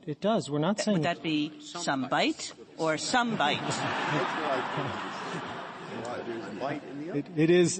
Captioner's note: laughter